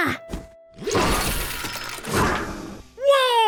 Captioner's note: mechanical leg launch